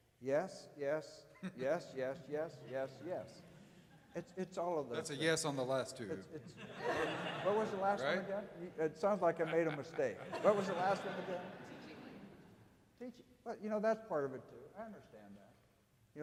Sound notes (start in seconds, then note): 6.4 audience laughing; 9.1 laughing